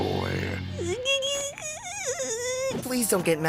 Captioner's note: whimpers